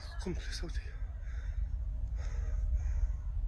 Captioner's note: holidaymaker speaks foreign language